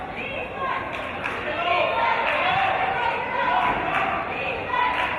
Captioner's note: audience chanting "Defense!"